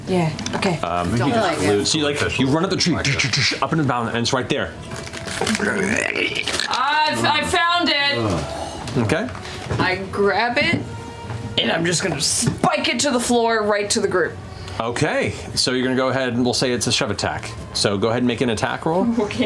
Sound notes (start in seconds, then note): 3.5 impacts; 5.4 insect chitter